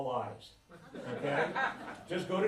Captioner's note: laughter